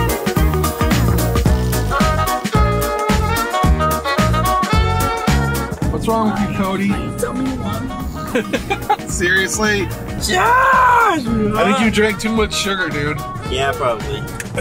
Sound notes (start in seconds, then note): 7.2 laughing